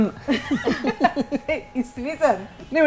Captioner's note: chuckles